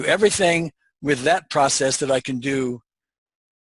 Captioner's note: none